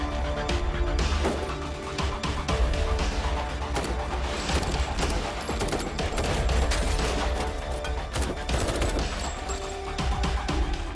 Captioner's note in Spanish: Disparos